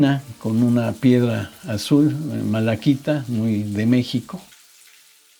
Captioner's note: water trickling, flowing